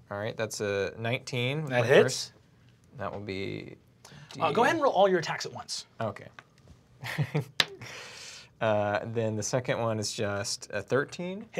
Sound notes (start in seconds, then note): 7.0 laughs